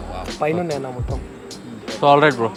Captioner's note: chatter in Telugu